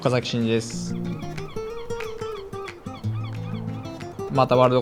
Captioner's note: gulls squawking